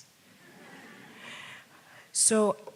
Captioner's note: audience laughs